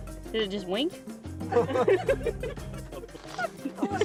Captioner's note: laughter